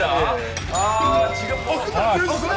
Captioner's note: end bell rings?